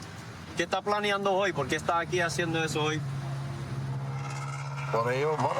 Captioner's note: speaking spanish